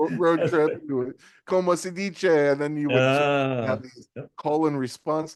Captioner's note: speaking in foreign language